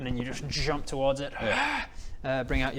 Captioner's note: hwarrrgh!